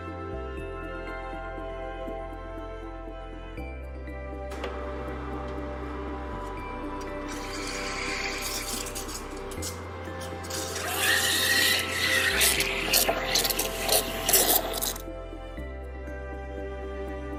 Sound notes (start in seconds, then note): 4.6 coffee machine hums; 6.9 coffee machine whirs